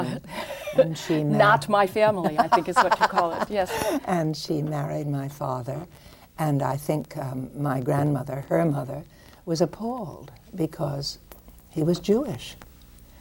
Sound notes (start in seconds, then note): 2.2 laughs; 2.3 Marian laughing